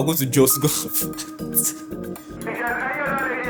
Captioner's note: laughs